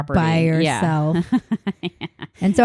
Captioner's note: laughing